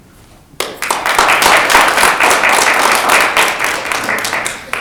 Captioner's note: audience applauds